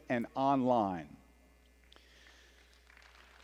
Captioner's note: applause